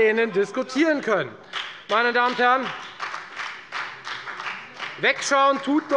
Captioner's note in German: Beifall bei der FDP